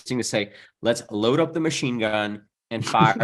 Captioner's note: chuckles